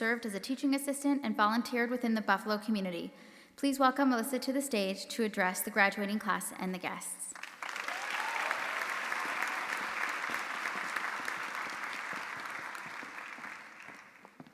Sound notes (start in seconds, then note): 7.3 audience applauding; 7.6 audience members cheering